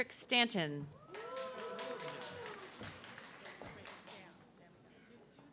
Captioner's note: audience clapping